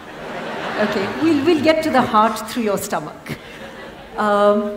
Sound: laughter; laughter

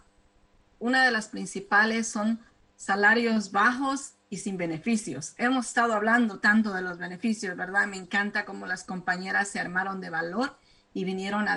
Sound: speaking spanish

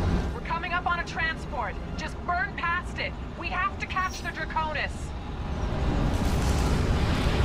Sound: radio

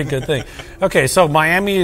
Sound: laughs

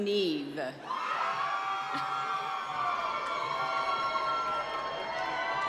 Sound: cheering and applause

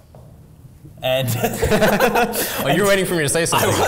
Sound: laughing

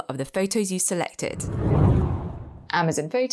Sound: air whooshes

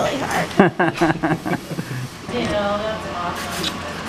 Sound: laughing

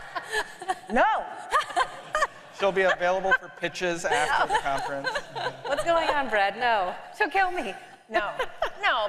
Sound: laughter

